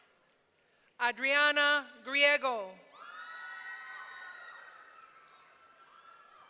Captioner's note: audience cheering